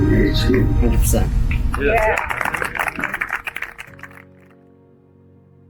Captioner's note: applause